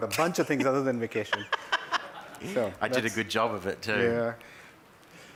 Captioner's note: laugh